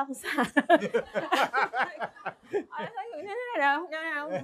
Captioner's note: laughter